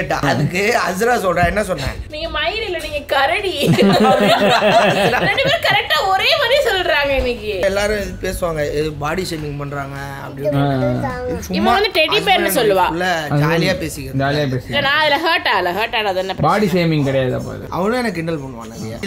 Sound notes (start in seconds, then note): 3.6 laughs